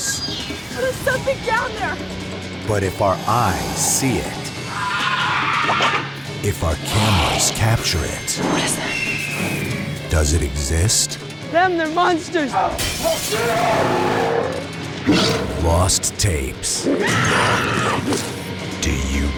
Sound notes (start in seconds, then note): 4.6 shrieks; 12.6 growls; 12.8 glass shatters; 16.5 woman screams